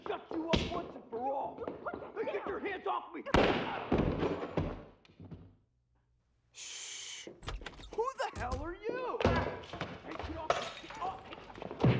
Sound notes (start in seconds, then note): 3.3 gunshot and thud; 10.4 glass breaks